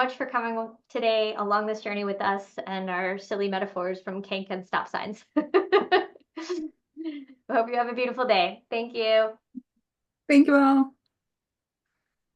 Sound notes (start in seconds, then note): 5.4 laughs